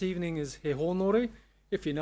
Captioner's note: speaking Maori